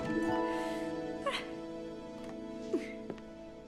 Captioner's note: small laugh